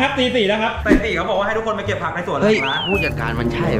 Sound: pat

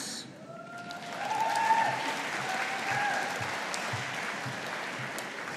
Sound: audience applauding

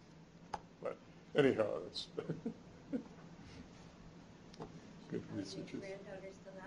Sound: chuckles

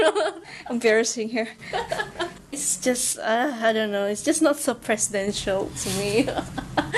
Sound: more chuckling

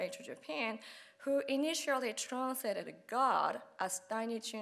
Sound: speaking Japanese

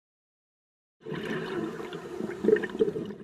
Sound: underwater exhalation

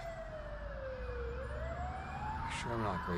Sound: sirens wailing

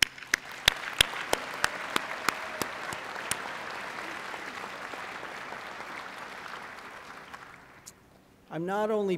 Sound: applause

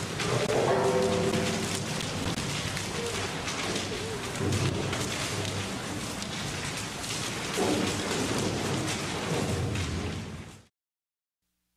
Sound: sounds of tunnel boring machine turning and breaking through rock and metal

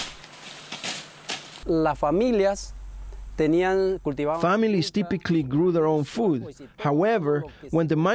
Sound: through translator

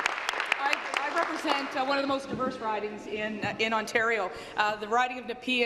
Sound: applause

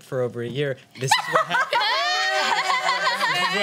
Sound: laughing

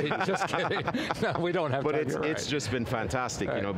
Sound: laughs

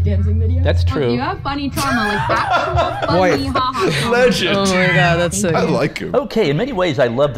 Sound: laughing

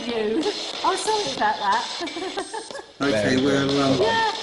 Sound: laughing

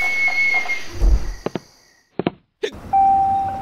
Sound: footstep sounds; hiccups

